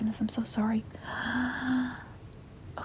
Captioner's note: inhales nervously